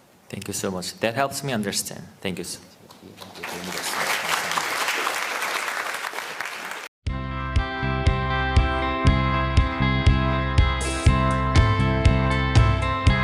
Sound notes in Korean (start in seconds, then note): 3.2 청중 박수